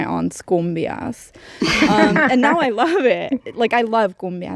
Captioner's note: laughter